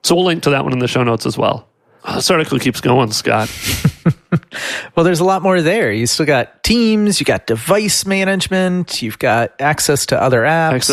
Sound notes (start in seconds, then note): 3.4 laughs